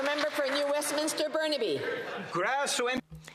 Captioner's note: some Applause